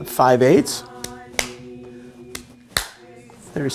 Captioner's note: rhythmic clapping